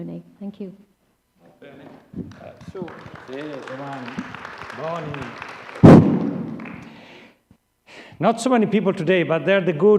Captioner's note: applause